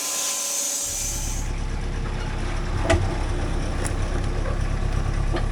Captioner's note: engine rumbling